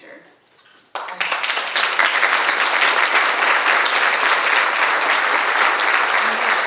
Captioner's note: and audience applauding